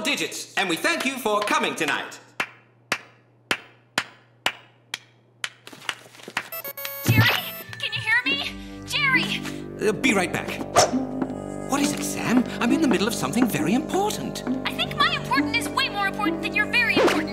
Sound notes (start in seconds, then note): 3.6 light clapping; 8.1 on phone; 16.1 on phone